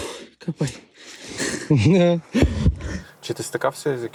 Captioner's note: laugh